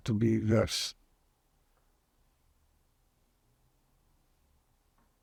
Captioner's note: pauses 10 seconds